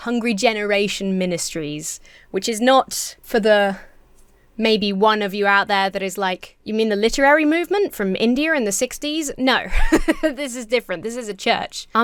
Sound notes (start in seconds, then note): 9.6 laughs